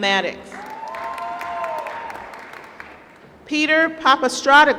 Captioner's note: applause